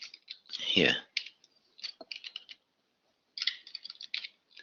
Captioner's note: typing